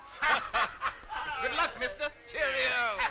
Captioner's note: group laughing